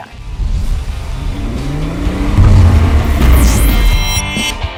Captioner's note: car revving